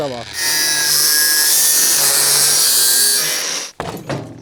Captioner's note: Flexgeräusche